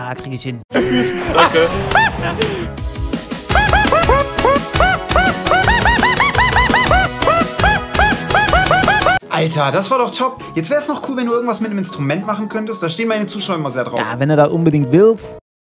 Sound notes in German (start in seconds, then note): 0.8 Lache von HandofBlood